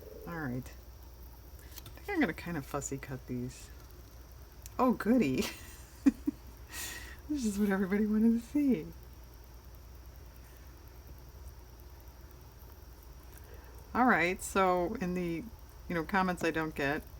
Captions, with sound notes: all right i think i'm going to kind of fussy cut these oh goody (laughs) that's just what everybody wanted to see all right so in the comments i don't get,